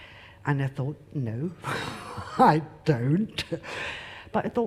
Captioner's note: laughs